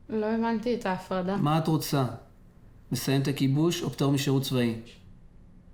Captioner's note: speaking foreign language